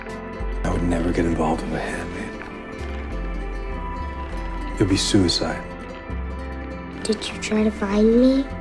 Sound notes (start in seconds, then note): 0.6 voiceover; 4.9 voiceover; 7.2 voiceover